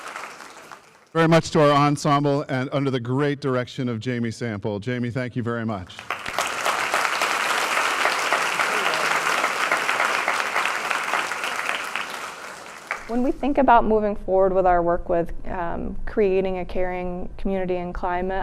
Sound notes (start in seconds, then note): 6.9 applause